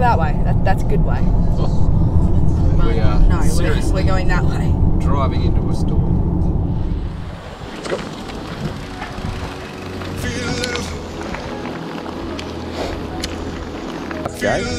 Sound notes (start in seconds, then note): 7.5 wet road sounds; 10.3 workout music